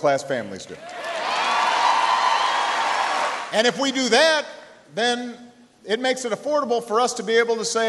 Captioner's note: cheering and applause